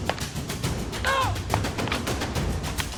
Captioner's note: referee speaks in Tagalog; thrilling music continues